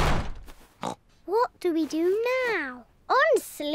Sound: oinks

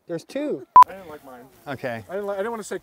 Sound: beep

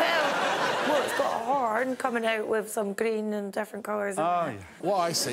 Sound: crowd applauds and cheers

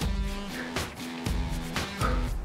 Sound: exhaling

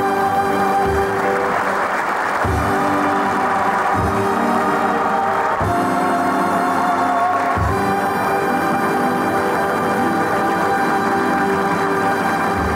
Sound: audience applauding

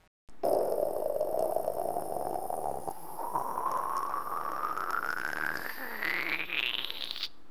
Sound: pouring liquid

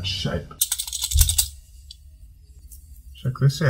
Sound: clamp rattling

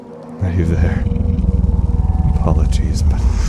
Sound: growling

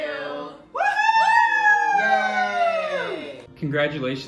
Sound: cheering

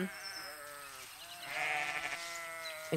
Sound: sheep baa

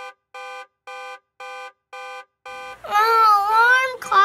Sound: alarm ringing

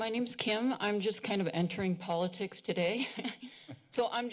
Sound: laughs

